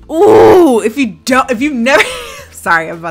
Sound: grunts

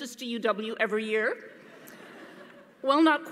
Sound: audience laughing

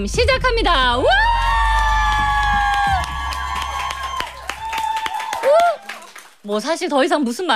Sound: clap

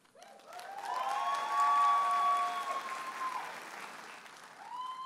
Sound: audience applauding and cheering

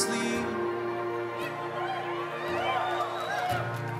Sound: crowd cheers

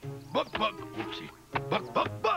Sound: bok bok

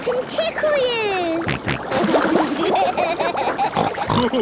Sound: snorting, giggling

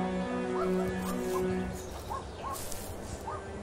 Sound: leaves crumbling

